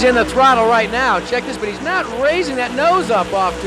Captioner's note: shrill alarm